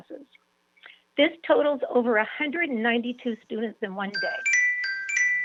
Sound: chime

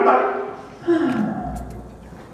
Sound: Rabbit sighs

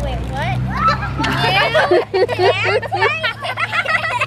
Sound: all laughing

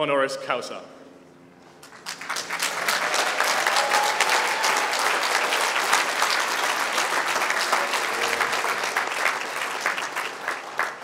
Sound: applause

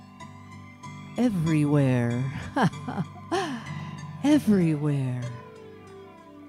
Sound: laughs

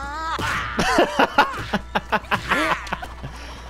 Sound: laughing hardly

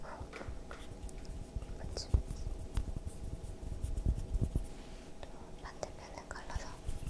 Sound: rubbing

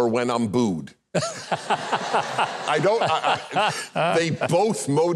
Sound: Huckabee and audience laughing

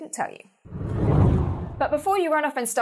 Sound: hard whooshing

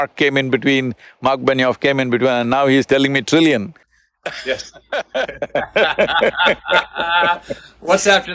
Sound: both laugh

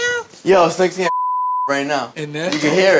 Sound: beep

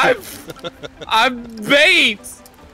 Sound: laughs

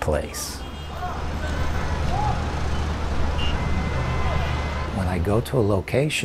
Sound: traffic noise

